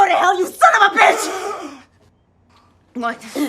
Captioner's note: he gasps